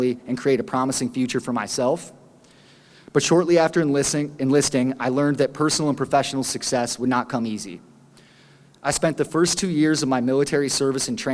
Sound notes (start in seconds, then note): none